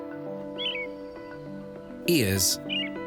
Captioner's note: bird sings